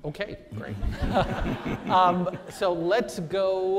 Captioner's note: audience laughs